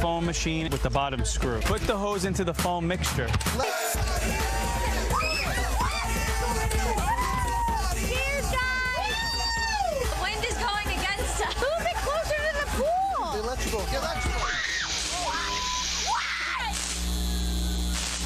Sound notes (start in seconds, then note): 14.8 cheers